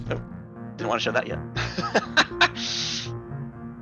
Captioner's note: laughing